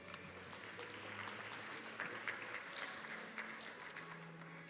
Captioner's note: audience clapping